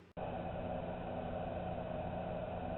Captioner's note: none